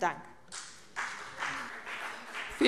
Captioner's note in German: Beifall CDU und BÜNDNIS 90/DIE GRÜNEN